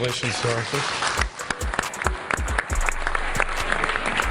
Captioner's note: applause